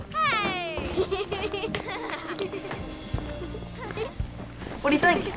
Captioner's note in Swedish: barn skrattar